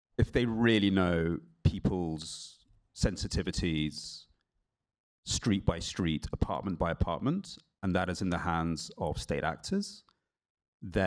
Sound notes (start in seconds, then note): none